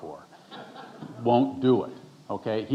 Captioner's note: audience chuckling